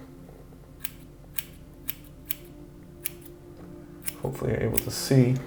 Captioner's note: scissors snipping